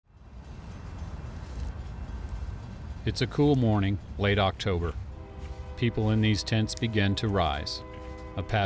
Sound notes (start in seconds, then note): 0.1 moving train